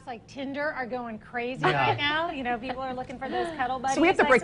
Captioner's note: laughing